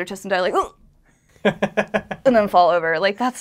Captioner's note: grunts; laughter